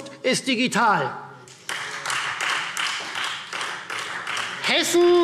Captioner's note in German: Beifall Freie Demokraten